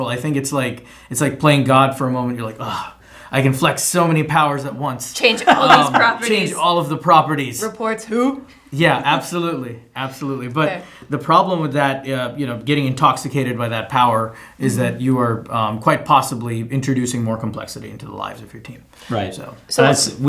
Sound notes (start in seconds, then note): 2.6 dramatic sigh